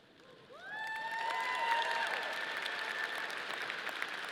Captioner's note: audience applauding